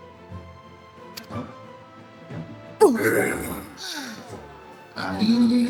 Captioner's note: grunting